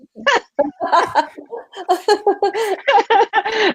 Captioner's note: laughing